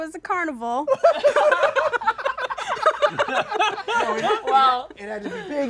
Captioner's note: laughter